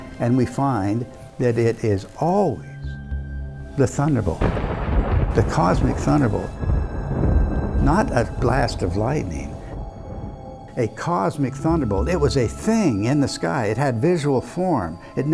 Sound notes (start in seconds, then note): 4.7 thunder rumbling